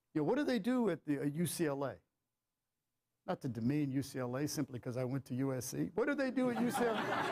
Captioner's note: laughter